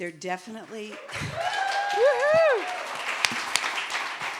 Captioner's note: audience applauding